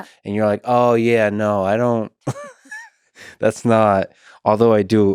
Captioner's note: laughs